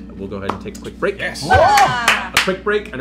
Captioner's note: cheering